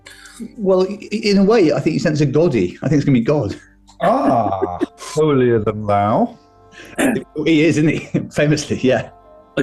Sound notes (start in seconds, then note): 3.9 giggling